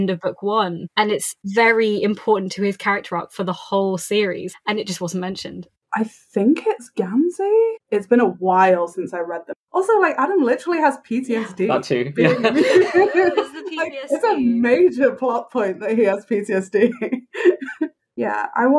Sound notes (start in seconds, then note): 14.0 laugh; 14.3 laughing